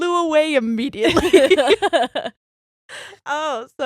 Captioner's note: all laughing